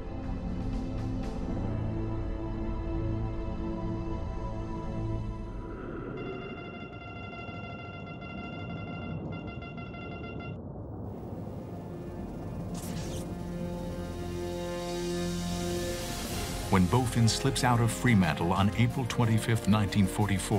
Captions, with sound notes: [beeping] [ominous music] When Bowfin slips out of Fremantle on April 25, 1944,